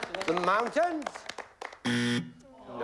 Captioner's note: buzzer